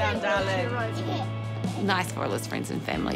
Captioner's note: giggles